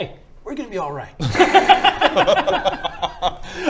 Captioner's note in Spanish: risas